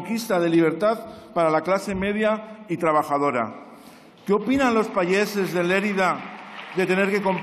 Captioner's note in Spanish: Aplausos